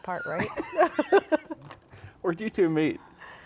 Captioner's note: laughs; chuckles